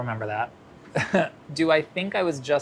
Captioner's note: chuckling